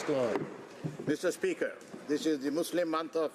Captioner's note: applause